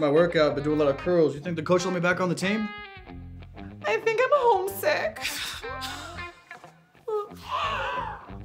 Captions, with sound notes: I adjusted my workout to do a lot of curls. You think the coach will let me back on the team? - I think I'm homesick (sobs).